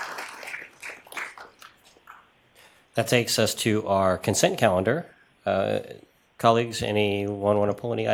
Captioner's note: applause